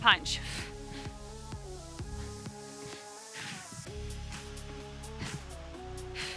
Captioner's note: upbeat music continues; breathing deeply